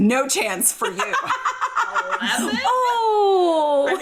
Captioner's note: laughing loudly